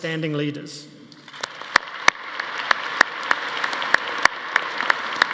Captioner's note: audience applauding